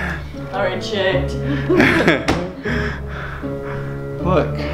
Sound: laughing

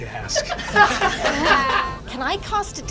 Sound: laughing

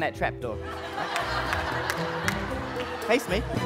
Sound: laughter

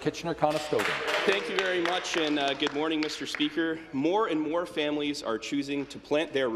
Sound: some Applause

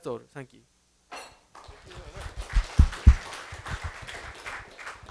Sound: applause

